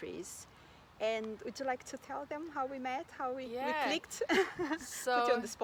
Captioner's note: risos